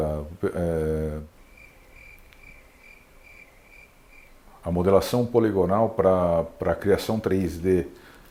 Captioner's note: cricket sounds